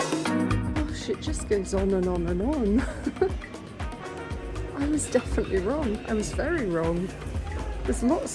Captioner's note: laughing